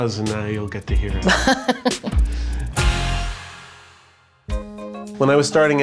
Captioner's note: laughing